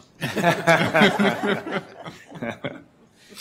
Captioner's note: laughter